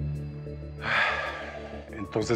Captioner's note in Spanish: Suspiros